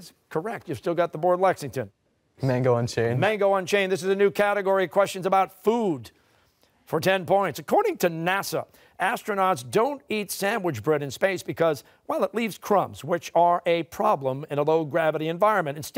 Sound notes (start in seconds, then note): none